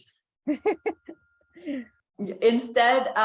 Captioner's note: laughs